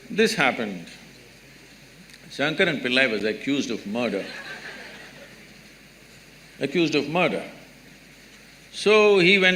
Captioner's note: laughter